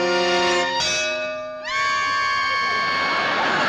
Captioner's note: clang